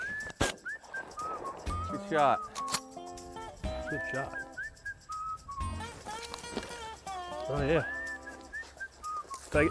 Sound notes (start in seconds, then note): 0.5 shot goes off; 3.1 upbeat country music